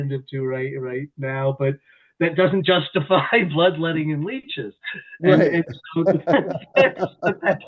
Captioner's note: laughter